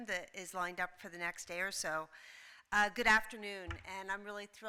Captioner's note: none